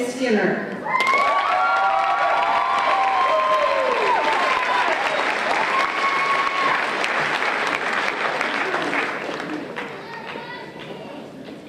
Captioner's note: applause and Cheers